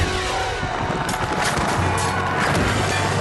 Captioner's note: war cries